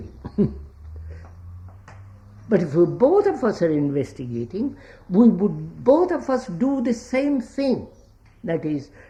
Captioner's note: laughs